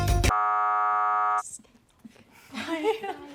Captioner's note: error sound; laughs nervously